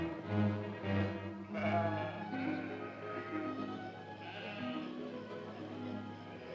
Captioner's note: ominous music; soft music; sheep baaing; soft music